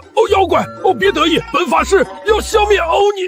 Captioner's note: gag